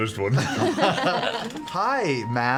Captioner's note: laughter